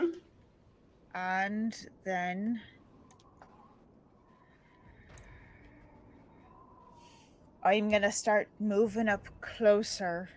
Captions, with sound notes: And then, (wind whistling faintly) I'm gonna start moving up closer